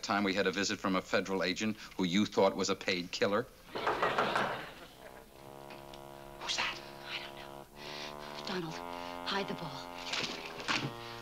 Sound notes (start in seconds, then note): 3.8 knocking at door